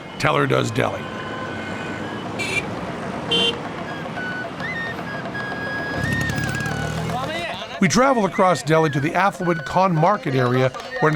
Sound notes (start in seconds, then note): 3.2 horns honking